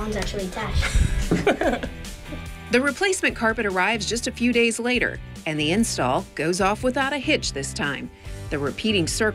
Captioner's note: laughs